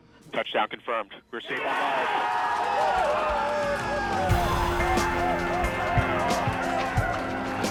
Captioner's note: cheering